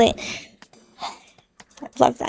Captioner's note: exhale